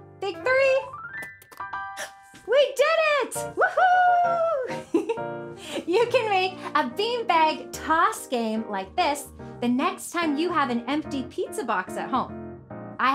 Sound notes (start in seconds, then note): 2.0 gasps